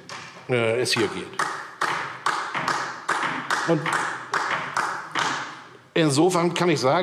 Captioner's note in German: Beifall DIE LINKE